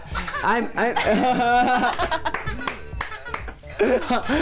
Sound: laughs

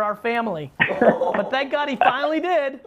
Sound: laughing

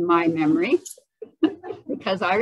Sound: laughter

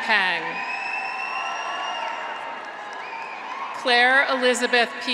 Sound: graduates cheer; audience applauds

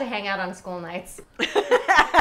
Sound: laughing

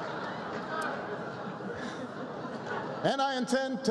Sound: laughter and applause

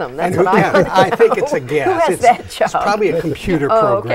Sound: laughing

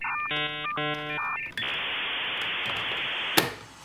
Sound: modem connects; snap

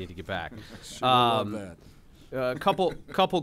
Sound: laughter

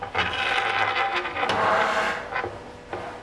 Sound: scraping noise

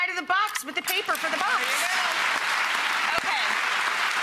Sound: audience clapping

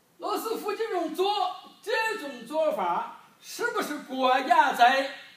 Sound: speaking foreign language

